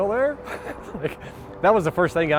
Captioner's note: laughing